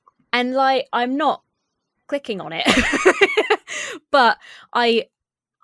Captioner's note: laughs